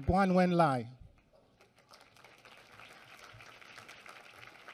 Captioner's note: applause